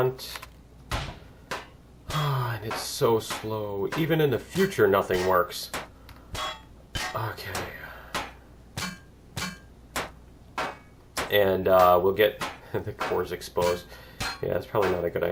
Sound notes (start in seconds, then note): 0.6 pinging; 7.4 pinging continues; 9.7 laughs